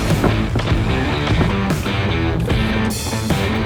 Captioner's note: door creaking